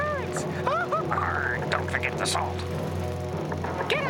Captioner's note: wails